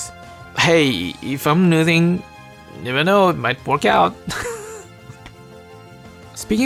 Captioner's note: chuckle